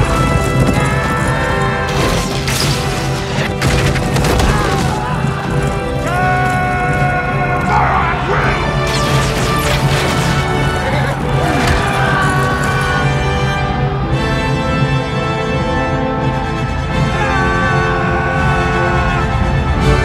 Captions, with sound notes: Death! Charge! Fire at will! [YELLS]